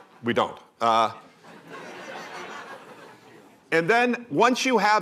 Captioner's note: laughter